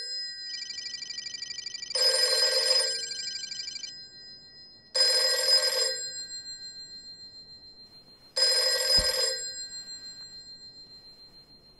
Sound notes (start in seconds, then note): 0.0 phone sound